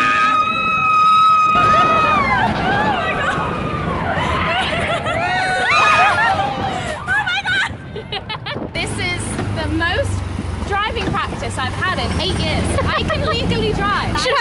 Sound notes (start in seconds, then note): 4.2 yelling; 8.2 laughing